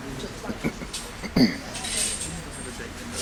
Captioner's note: clearing Throat